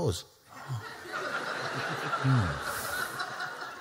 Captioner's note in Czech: Smích